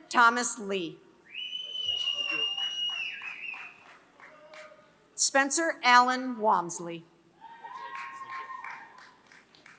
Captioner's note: applause